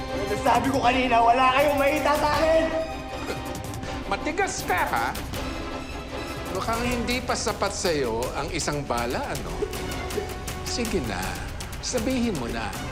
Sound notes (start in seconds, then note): 2.8 scoffs; 9.9 edgar whimpering